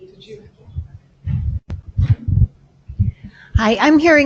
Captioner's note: woman mumbling